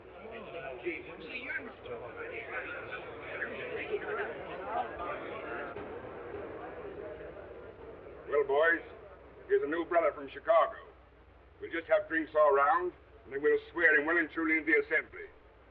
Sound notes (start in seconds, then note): 0.2 crowd muttering; 4.4 crowd muttering